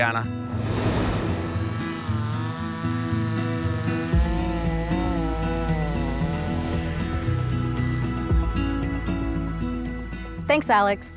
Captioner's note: chainsaw buzzing; lively music